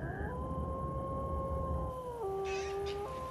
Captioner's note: wolf howling